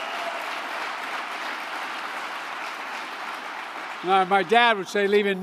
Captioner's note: applause